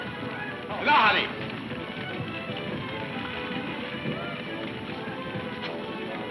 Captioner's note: man speaks in foreign language